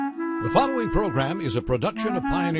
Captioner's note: voiceover